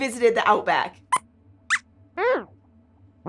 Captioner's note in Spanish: Squeaks chirría